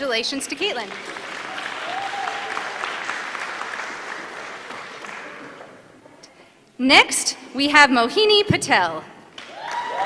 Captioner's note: applause; applause